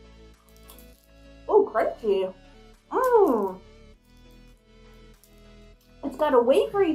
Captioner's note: chewing